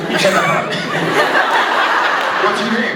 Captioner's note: laughs